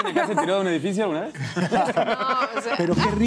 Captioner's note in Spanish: Risas